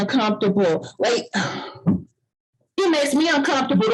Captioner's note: sighs